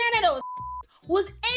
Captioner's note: beep